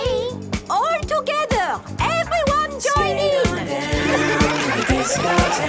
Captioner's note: laughter